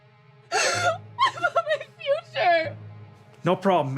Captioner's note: crying